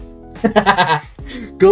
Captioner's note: laughs in mexican pillar